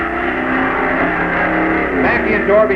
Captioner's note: engines roaring